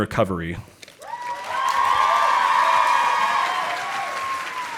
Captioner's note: audience applauding